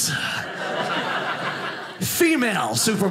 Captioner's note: audience laughing